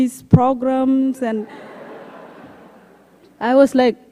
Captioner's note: laughter